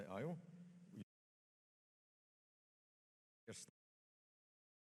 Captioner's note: audio cuts out